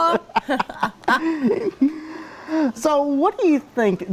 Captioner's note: both laugh